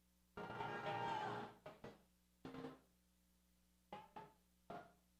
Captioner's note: crowd cheers